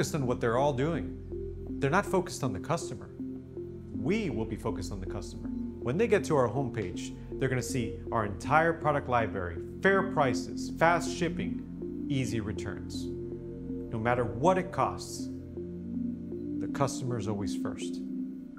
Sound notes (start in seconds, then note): none